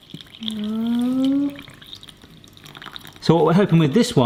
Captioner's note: milk ripples